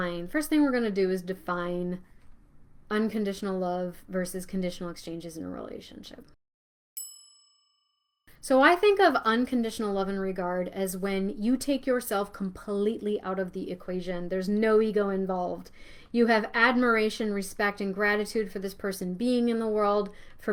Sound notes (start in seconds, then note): 7.0 bell chiming